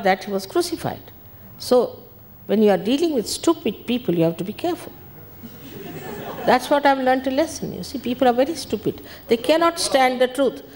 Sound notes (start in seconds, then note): 5.4 people laugh